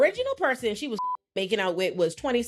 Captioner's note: beep